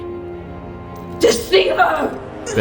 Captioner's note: screaming